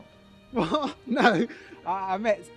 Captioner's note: laughing